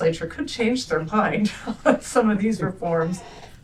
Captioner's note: laughter